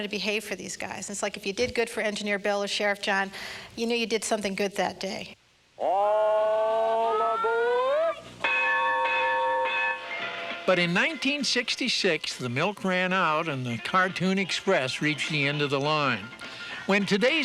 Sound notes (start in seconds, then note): 8.4 bell dings